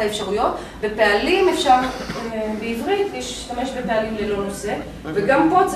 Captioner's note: Hebrew